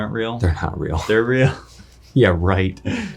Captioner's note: laughs